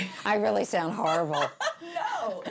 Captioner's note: laughing